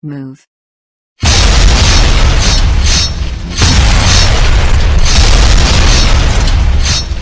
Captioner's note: explosions booming; machine clinking